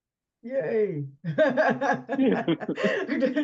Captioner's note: laughs